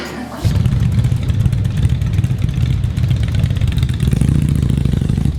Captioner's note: motorcycle engine idling